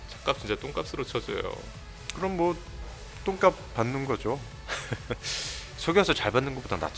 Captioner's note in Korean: 웃음